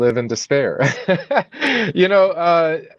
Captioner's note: laughs